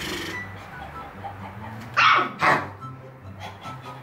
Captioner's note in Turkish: köpeğe üflüyor; köpek havlıyor